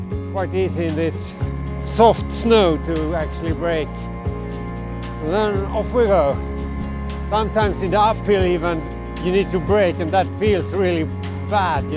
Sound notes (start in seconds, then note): none